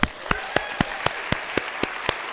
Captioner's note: applause